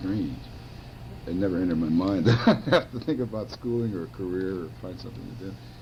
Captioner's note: laughs